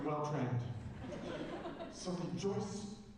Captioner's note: laughter